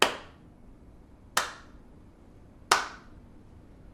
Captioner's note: applauding slowly